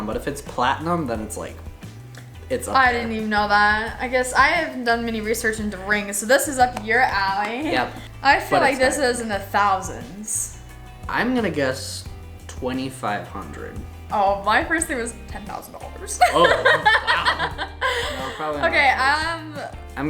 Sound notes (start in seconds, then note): 16.2 laughs